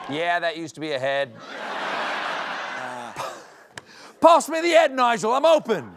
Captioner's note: british accent